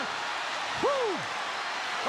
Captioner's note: audience cheering